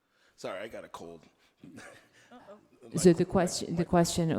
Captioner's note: laughs